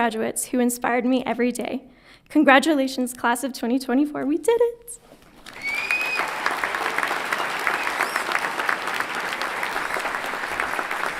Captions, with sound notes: and to my fellow graduates who inspired me every day. Congratulations class of 2024, we did it! (everyone clapping and cheering)